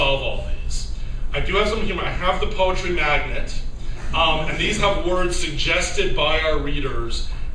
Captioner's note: laughter